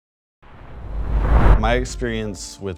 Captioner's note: air swooshing